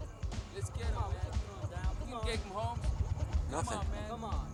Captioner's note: distant chatters